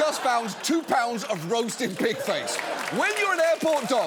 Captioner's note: studio audience applauding